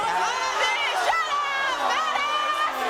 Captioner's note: audience shouts